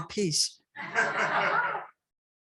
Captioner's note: laughter